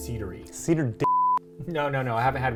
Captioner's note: beep